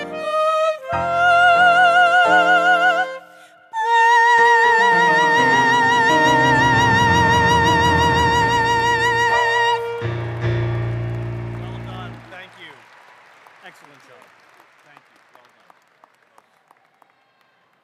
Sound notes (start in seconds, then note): 9.9 applause